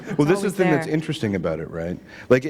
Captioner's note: laughter